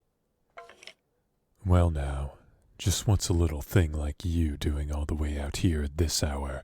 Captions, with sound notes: (Skeleton noises lol) Well now…Just what's a little thing like you doing all the way out here at this hour?...